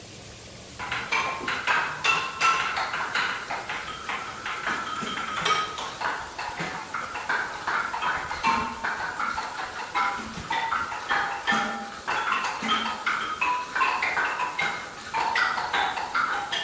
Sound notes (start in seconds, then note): 0.7 rain Pouring; 1.0 instrument Playing